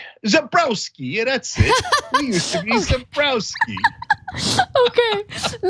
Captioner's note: laugh